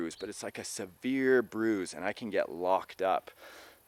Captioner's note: none